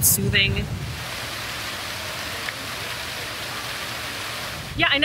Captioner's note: flowing water